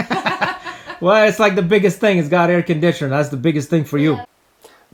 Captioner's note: сміх